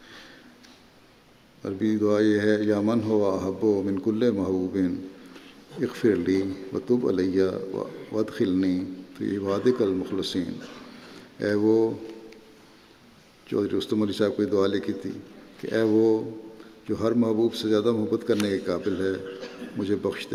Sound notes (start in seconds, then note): 2.1 Arabic